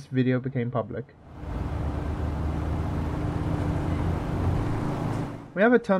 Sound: motorcycle drives

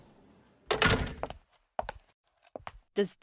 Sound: door opens then closes

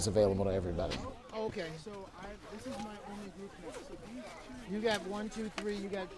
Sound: snowboarders chattering

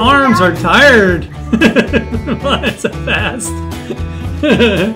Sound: laughing

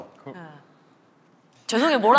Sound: silence

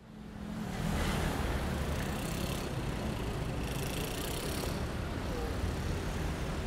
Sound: city noises

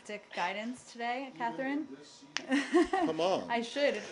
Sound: laughter

